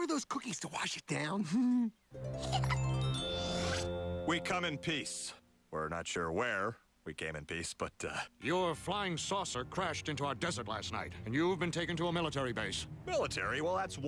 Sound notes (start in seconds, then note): 2.3 giggles